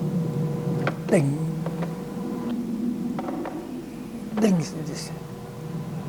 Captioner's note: mimicing sound of bombing